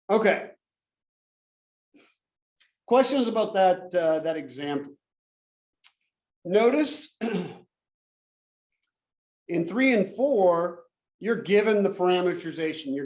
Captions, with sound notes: Okay, questions about that that example. Notice [COUGH] in 3 and 4, you're given the parameterization.